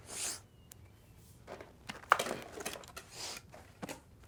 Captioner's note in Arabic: ناثان يشم